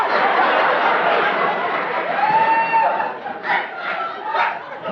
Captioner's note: audience laughing